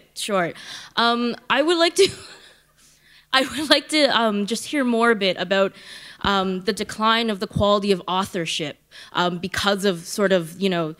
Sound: chuckle

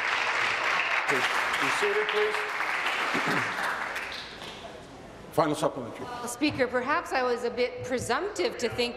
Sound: applause

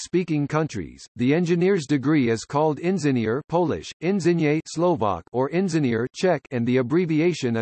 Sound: Polish

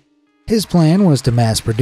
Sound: audience cheering

